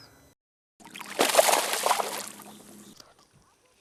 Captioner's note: splash